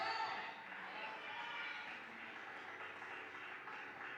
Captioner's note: cheers